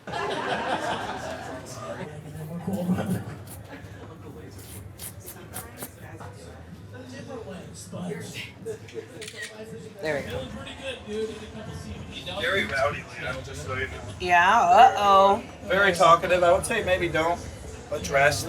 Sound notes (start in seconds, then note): 0.0 audience laughing background; 5.5 indistinct background chattering; 9.2 phone camera snaps